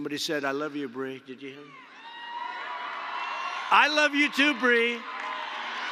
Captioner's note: applause